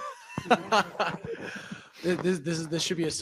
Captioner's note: laughter